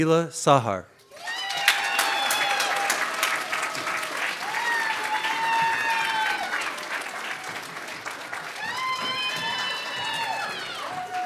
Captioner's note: audience claps and cheers